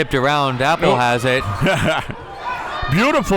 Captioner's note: laughs